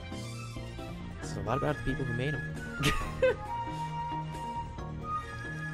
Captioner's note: laughs